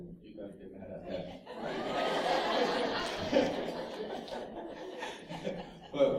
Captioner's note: laughter